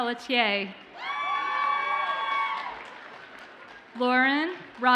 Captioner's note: audience cheers and applauds